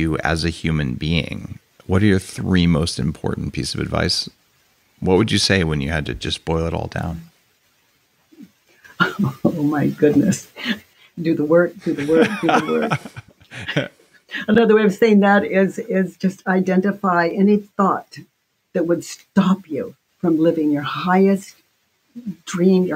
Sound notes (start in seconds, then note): 11.8 laughs; 11.9 Dave laughs